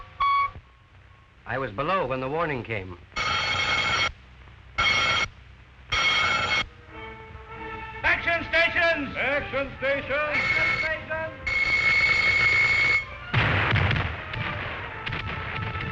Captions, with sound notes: I was below when the warning came. (loud ringing) - [Voiceover] Action stations! - [Voiceover] Action stations! (explosions)